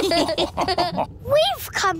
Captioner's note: all laughing